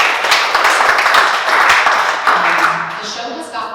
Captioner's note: applause